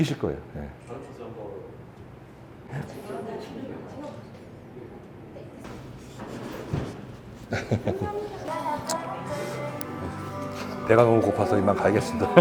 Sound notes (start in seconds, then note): 7.4 sweet laugh